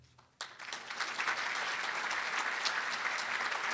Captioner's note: applauding